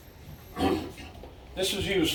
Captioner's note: coughing